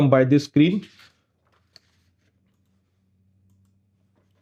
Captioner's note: mouse clicking